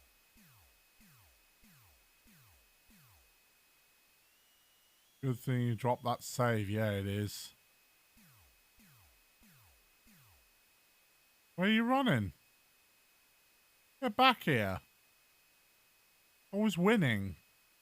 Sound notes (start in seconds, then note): none